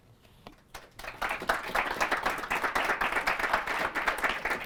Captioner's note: applause